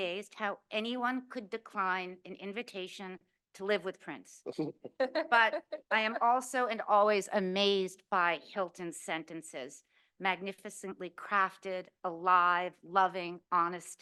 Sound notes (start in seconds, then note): 4.5 chuckles